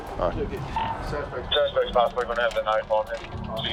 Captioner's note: police radio chatter